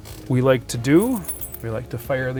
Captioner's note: car keys clanks